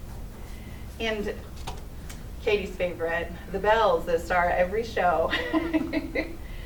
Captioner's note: laughs